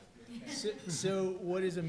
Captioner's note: quiet laughing